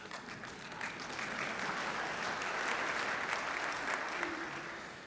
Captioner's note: audience applauding